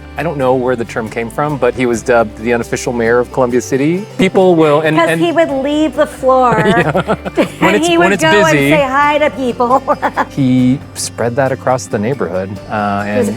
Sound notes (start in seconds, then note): 9.7 chuckles